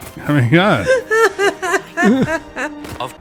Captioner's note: merry Laughter